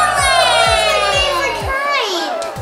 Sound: cheering

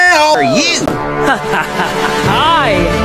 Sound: General Yunan chuckles

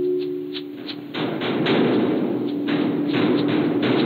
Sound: banging metal noise continues

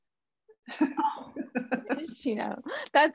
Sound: laughs

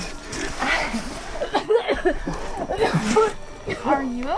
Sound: coughs

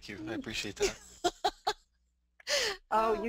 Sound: laughs

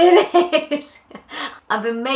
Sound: laughs

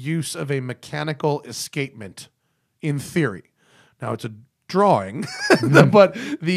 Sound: laughter

